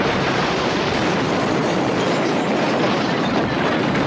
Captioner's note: loud blast